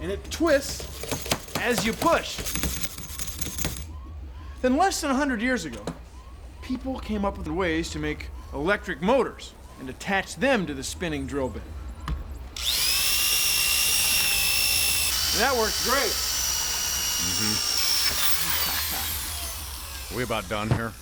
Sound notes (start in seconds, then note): 11.7 motor whirring; 18.1 laughs